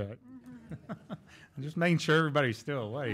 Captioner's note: laughing